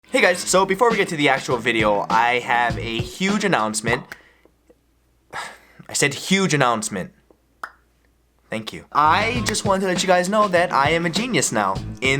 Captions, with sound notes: Hey guys! So, before I get to the actual video... I have a huge announcement *Sigh* I said HUGE announcement! Thank you. I... Just want to let you guys know that I am a genius now